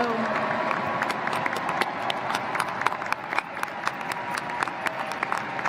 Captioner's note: applause